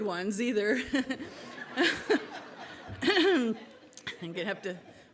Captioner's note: audience laughing